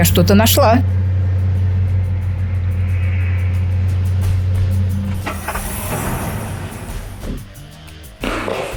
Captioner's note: engine noise; engine shut off; hydraulic whistle; footsteps